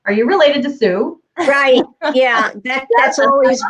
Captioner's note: laughing